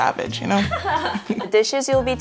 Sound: laughing

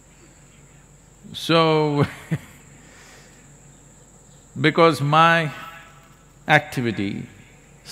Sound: laughs

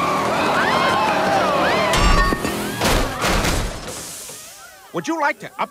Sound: woman screams

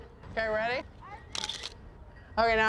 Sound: camera shutter clicks

